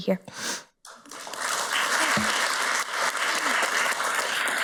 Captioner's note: audience applauds